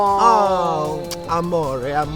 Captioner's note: lips smack